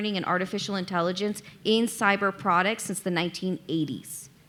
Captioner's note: none